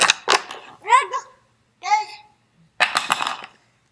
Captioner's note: baby chattering